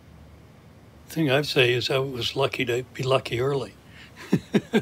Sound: laughs

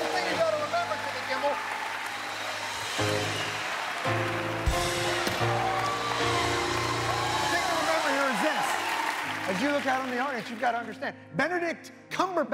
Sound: cheers and applause

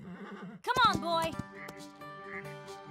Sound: neighing; galloping

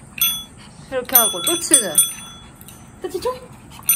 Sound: ding-dong; ding-dong!

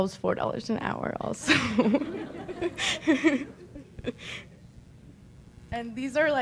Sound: subtle laughter

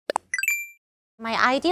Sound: pop

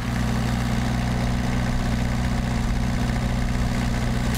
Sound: engine roaring

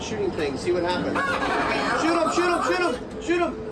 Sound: video game voice making noise and laughing

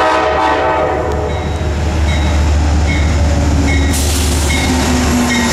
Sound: bell

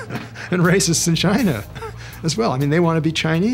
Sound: laughing

